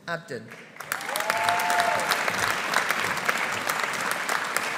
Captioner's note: audience applauding